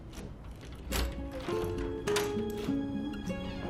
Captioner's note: door opens